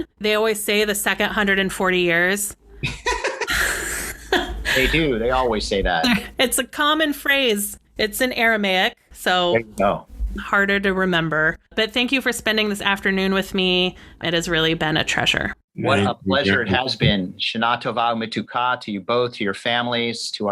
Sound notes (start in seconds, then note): 2.8 laughter; 7.6 laughs